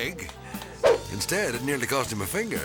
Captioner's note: transition whips